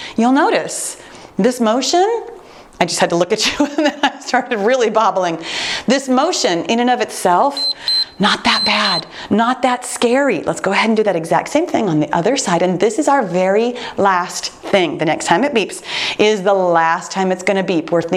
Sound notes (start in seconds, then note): 7.5 timer beeps